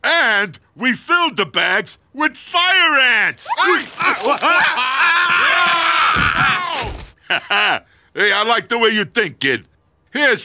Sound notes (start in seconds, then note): 3.4 screaming; 7.2 laughing